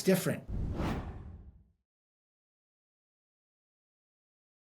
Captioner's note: graphics whooshing